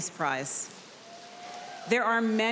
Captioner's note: audience cheering